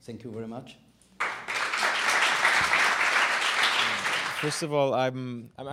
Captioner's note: audience clapping